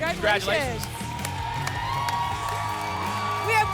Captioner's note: applause and cheering